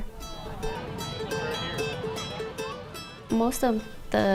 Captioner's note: chatter from crowd